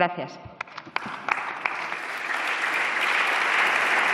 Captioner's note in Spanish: Aplausos